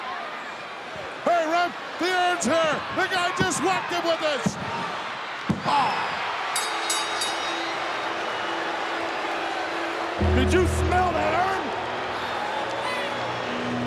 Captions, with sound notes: Hey, ref, the urn's here. The guy just walked in with this. Oh. (bell dinging) (crowd yelling) Did you smell that urn?